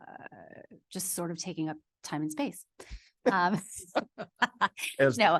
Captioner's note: laughs